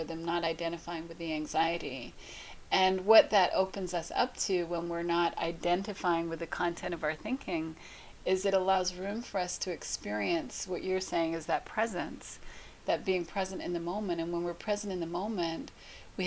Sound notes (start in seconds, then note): none